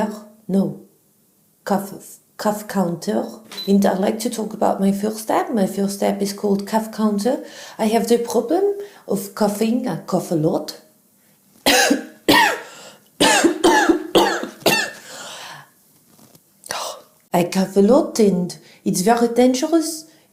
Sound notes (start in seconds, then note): 13.2 coughing